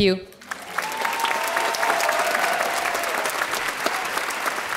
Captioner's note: audience applauding